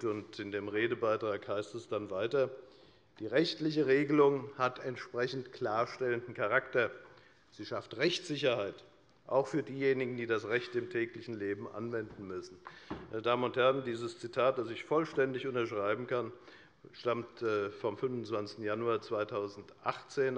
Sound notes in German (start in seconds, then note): none